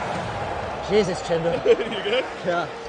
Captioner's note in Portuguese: risadas